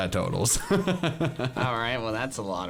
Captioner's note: laughs